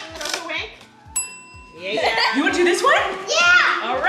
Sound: clink noise

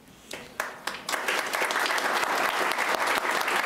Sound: applauding

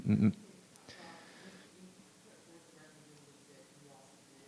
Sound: woman speaks faintly

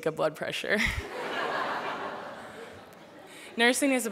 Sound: laughter

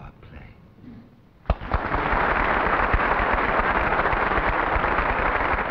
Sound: audience applauding

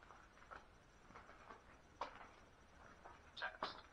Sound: footsteps

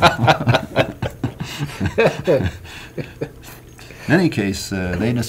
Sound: laughing

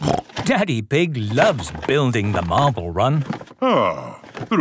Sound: snorting

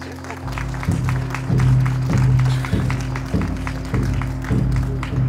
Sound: clapping; drumming

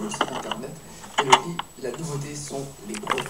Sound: ignition off

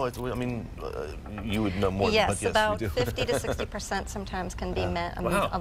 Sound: laughter

